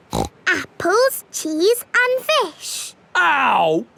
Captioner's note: snorts